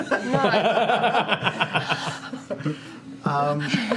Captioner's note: laughter